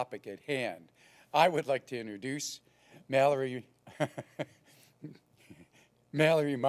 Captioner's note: laugh